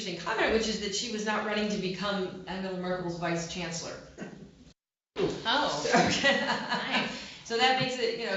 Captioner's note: laughter